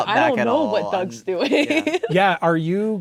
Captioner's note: laughing